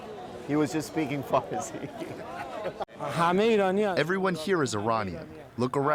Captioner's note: through translator